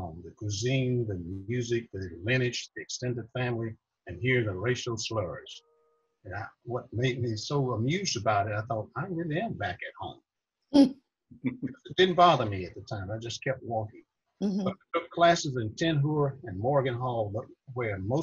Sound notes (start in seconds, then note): 11.4 laughs